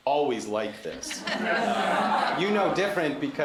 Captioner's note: laughter